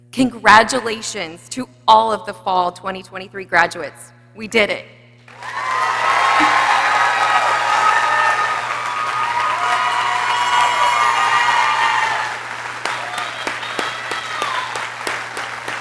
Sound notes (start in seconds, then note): 5.7 people cheering; 9.3 people exclaiming